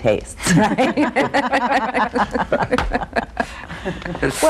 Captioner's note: laughter